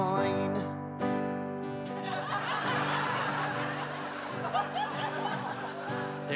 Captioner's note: audience Laughte